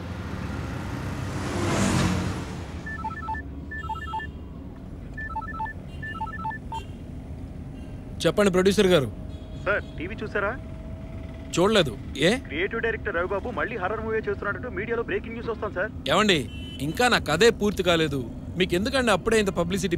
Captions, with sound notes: [PHONE RINGING] Tell me, producer. Sir, did you watch the news? No, why? It seems that the director Ravibabu is making a horror film again. It is the breaking news of the media. Sir! My story isn’t finished yet. Why are you worried about publicity?